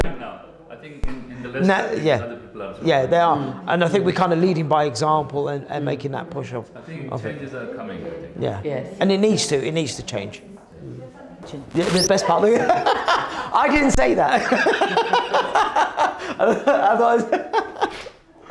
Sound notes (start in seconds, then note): 11.7 audio squeaks; 14.2 laughter